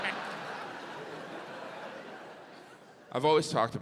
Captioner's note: audience laughs